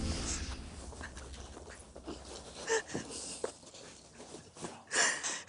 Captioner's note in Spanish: Sollozos